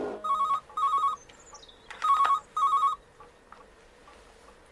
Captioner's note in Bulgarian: Звънене на телефона